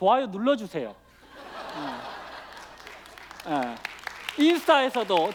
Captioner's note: laughter and applause